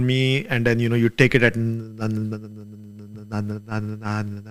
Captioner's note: imitates airplane